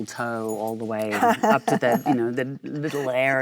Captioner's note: Michelle laughs